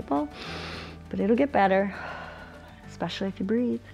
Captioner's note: exhales; inhales